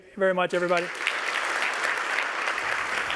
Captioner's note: applause